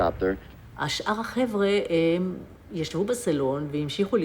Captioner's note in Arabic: الصوت المنطوق باللغة العبرية